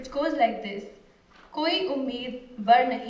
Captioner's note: non-english speech